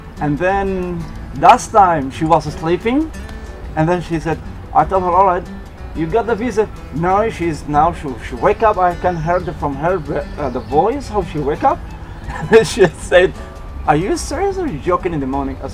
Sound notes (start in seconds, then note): 12.1 laughs